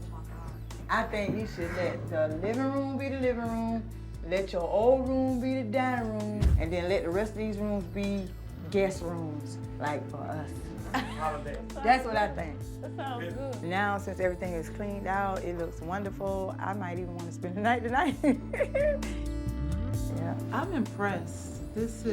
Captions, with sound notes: I think you should let the living room be the living room, let your old room be the dining room, and then let the rest of these rooms be guest rooms, like for us. That's what I think. That sounds good. Now, since everything is cleaned out, it looks wonderful. I might even want to spend the night tonight. [laughs] Yeah, I'm impressed. This is--